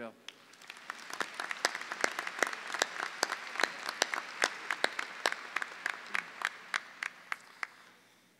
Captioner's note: clapping